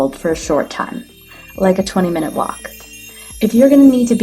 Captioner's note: gentle chimes